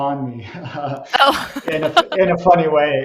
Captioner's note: laughs